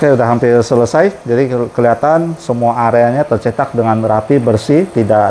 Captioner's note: printer machine noise